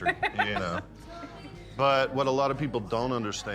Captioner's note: laughs